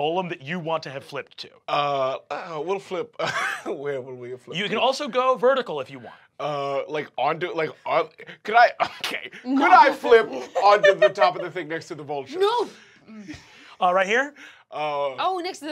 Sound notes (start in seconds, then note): 3.2 chuckles